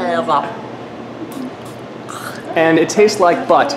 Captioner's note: gags